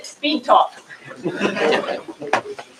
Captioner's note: laughter